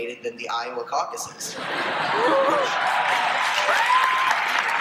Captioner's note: crowd laughs and applauses